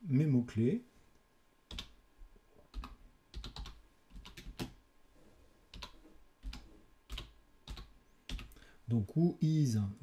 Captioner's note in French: Bruit de clavier